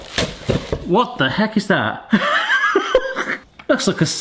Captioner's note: packaging rustling; laughs